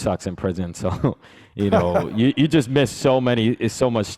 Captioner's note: chuckles